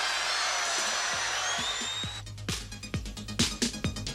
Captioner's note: crowd cheering